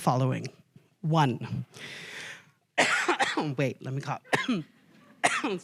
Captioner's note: coughs